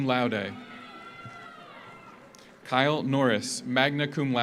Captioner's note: audience cheers; audience applauds